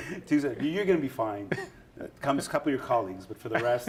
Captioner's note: laughter